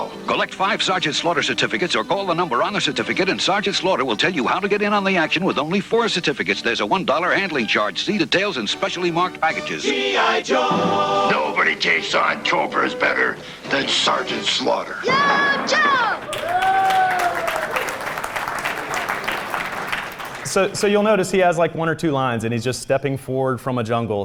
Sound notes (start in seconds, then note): 16.0 applause